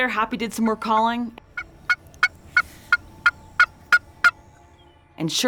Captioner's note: turkey calling